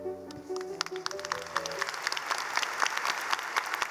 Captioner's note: clapping